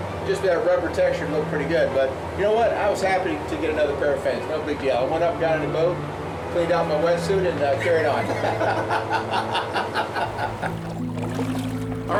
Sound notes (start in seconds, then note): 8.2 both chuckling; 10.3 haunting orchestral music